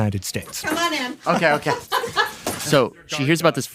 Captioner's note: laughs